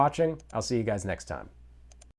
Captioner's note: clicking